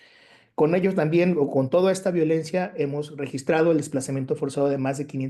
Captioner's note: continues speaking Spanish